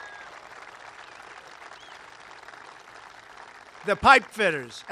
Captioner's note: applause